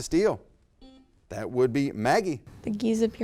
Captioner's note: buzzer beep